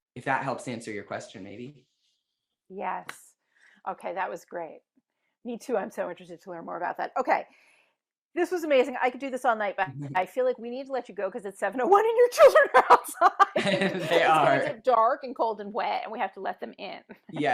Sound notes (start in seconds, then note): 12.7 laughs